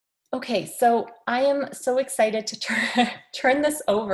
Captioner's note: laughs